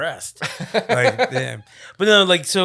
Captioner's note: laughing